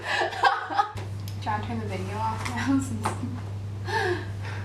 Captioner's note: nervous laughter